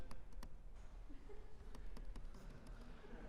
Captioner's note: chuckles